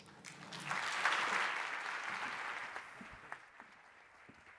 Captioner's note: audience applauds